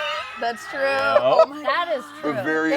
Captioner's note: laughs